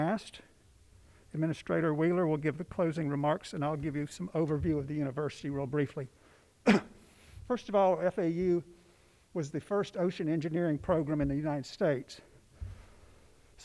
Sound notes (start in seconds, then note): 6.6 coughs